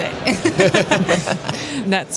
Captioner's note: laughter